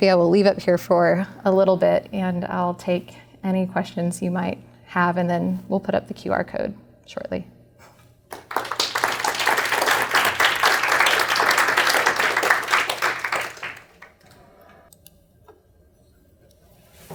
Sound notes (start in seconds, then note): 8.3 applause